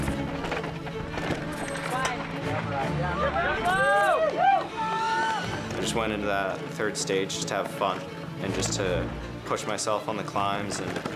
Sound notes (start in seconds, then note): 2.4 all cheering